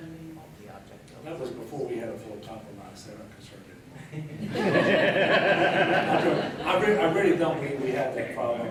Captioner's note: laughter